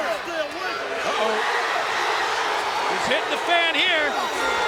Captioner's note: audience cheers